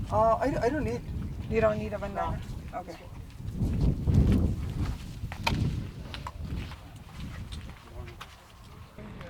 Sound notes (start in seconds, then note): 3.4 wind whooshing